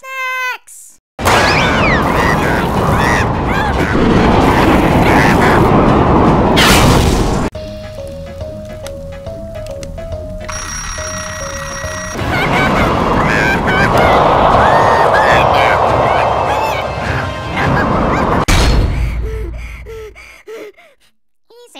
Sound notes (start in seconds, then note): 0.3 screams of pure terror; 9.6 more screams; 19.0 gasping for air